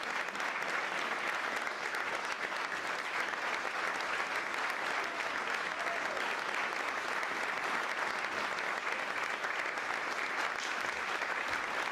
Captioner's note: applause